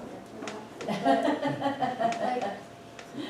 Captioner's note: laughs